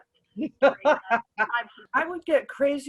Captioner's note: laughs